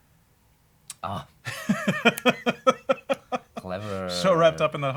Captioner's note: laughs